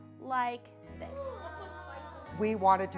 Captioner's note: excited gasps